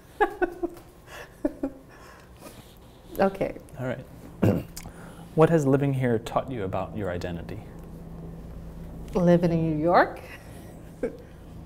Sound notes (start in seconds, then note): 0.1 both laugh; 4.4 clears throat